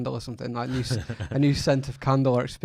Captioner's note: laughs